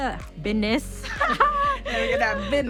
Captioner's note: laughing